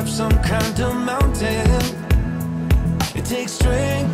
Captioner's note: wind blowing